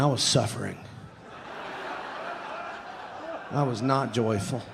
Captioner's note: audience laughing